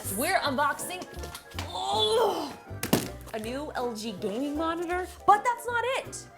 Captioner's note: groans